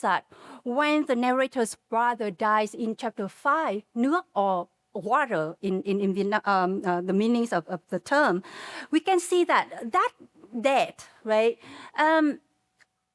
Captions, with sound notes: that when the narrator's brother dies in chapter five, (speaking Vietnamese) or water in Vietnam, the meanings of the term, we can see that that death, right,